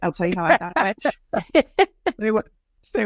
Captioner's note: laughing